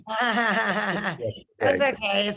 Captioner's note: laughing